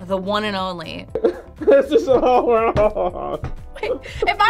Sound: laughs

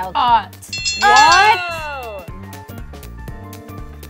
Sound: ding

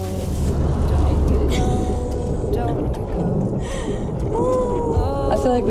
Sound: laughing

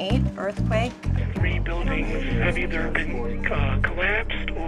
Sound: voiceover

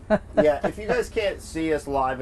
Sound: laughs

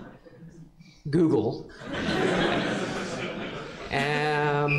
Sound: laughter

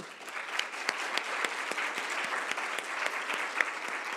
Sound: audience applauds

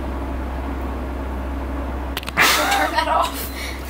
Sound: laugh

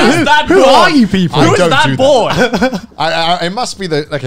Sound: laughing

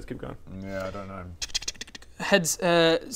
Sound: tch-kch-tch-kch-chk

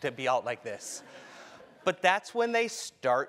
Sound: laugh

